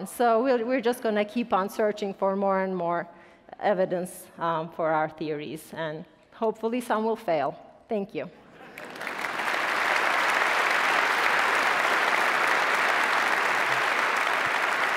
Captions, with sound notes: So we're just gonna keep on searching for more and more evidence for our theories and hopefully some will fail, thank you. (attendees applause)